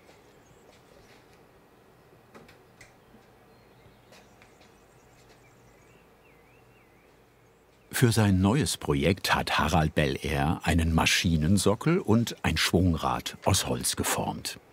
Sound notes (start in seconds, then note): 3.8 birds chirping